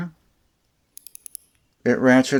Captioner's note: ratchet sounds